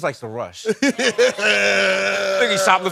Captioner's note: laughing